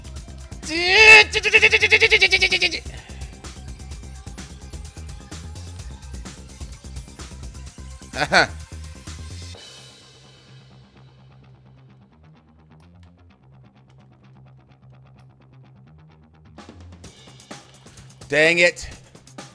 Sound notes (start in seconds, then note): 8.1 laugh